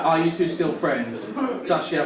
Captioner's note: audience laugh